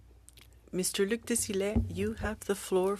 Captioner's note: speaking french